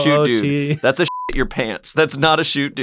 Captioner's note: beep